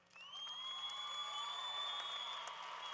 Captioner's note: applause